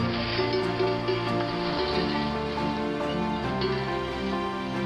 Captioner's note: leaves rustling; bell clinking